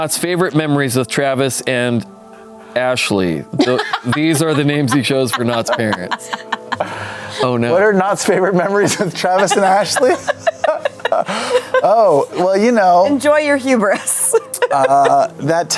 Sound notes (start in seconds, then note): 10.4 laughter; 14.9 laughs